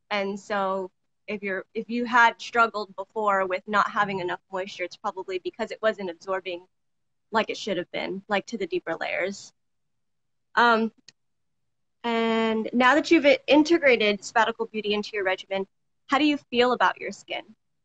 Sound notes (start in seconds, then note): none